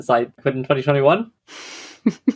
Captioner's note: laughs